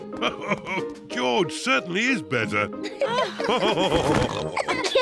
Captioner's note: giggles; all laughing; laughs